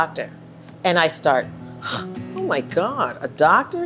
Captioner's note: scoffing